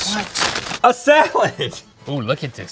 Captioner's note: laughing